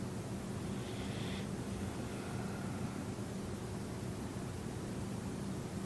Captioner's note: breathing noisily